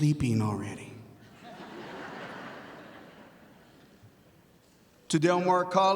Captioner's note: audience laughing